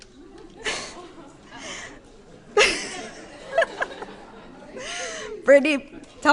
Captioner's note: laughter